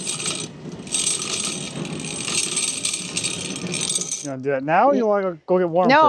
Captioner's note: metal rattling